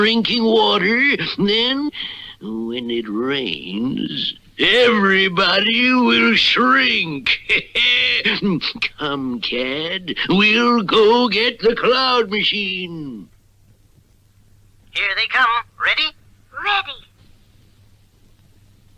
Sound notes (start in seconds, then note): 7.2 Simon Bar Sinister Laughs